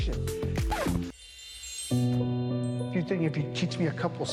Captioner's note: soft sparkle